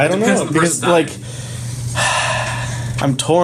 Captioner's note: sighs